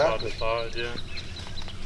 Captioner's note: indistinct chatter